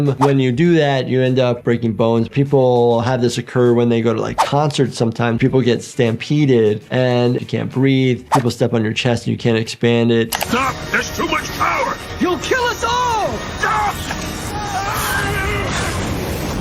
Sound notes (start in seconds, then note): 13.8 Angstrom Levy yelling; 14.9 explosion erupting